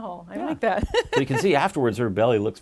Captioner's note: laughing